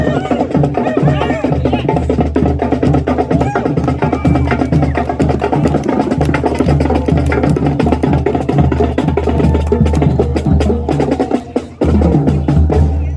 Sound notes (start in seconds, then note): 3.2 cheering from spectators